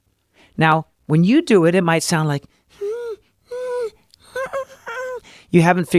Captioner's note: uncompressed squeeky sound